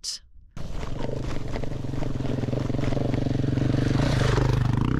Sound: sound of Motorbikes

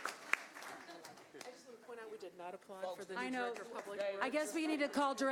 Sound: applause

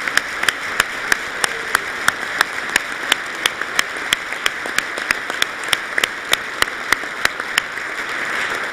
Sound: applause

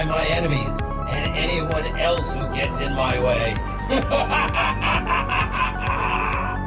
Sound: laughs wickedly

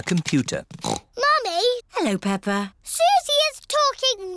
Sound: snorts

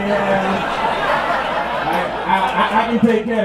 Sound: laughter

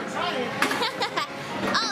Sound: laughs

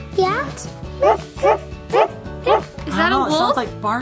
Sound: puppy barking

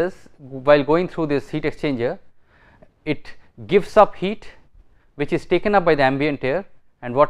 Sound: air conditioning

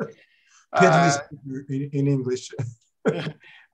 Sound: laughing; laughs

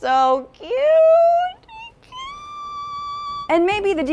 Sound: high pitched squeal

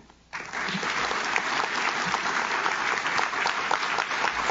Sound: audience claps

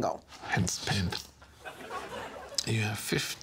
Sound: audience chuckling

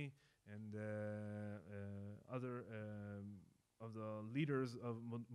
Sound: speaking in foreign language

